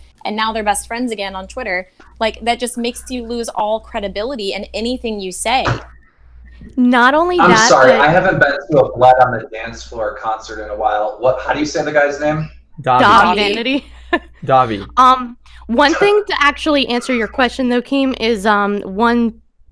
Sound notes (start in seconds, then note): 12.9 laughs